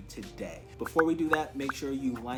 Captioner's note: swoosh pop